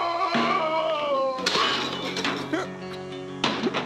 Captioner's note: clattering